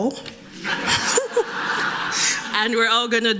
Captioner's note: laughter